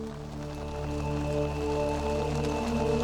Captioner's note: men chanting